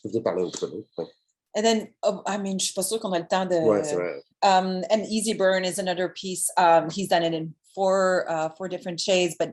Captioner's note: French language